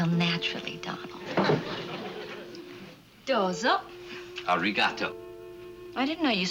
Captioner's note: speaking Japanese